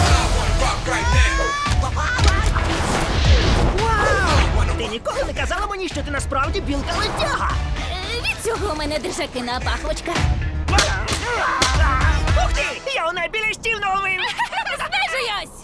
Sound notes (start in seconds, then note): 0.0 Sandy yells; 10.7 grunting; 14.1 laughing